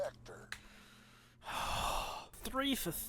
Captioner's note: sighs